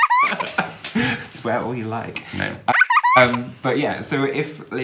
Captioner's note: baby's laugh; baby's laugh